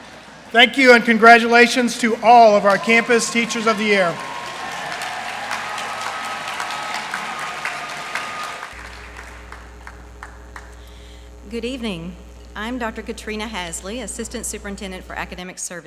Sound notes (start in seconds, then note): 4.5 applause